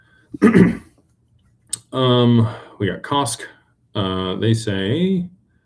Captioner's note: clears throat